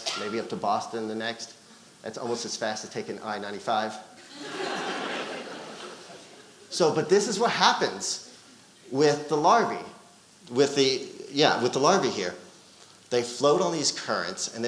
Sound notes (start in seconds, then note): 4.2 audience laughing